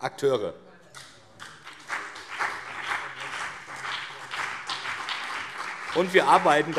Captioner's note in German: Beifall BÜNDNIS 90/DIE GRÜNEN und CDU